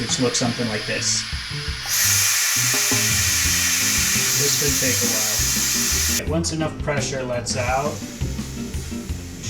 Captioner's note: loud Hissing